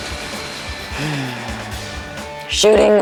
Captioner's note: sighs